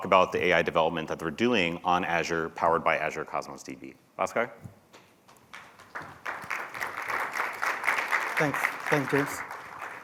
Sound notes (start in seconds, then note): 5.6 applause